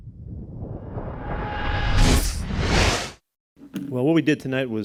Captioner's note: air whooshing